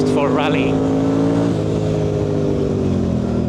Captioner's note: engine noise